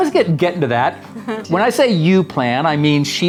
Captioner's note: chuckling